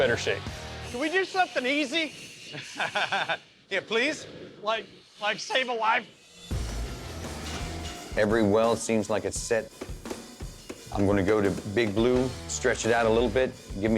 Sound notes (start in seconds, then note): 2.4 laughing